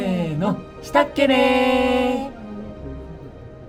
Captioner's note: in the dialect of Hokkaido